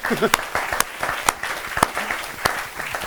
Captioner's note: applause